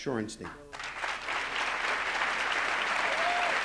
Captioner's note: applause